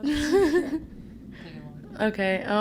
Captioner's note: laughter